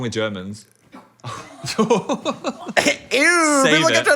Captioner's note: laughs